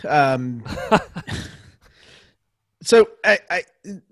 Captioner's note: laughs